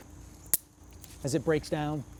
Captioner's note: stick snaps